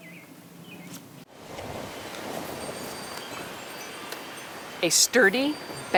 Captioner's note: wind whooshing